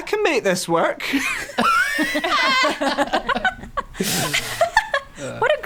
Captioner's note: cackling